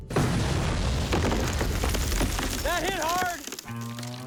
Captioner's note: explosion